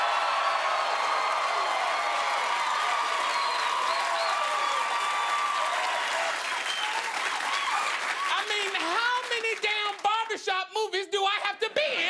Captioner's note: cheers and applause